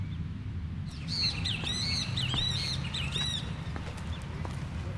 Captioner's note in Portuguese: Pássaros